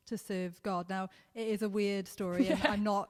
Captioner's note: laughs